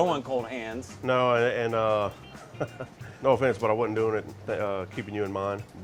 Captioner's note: chuckles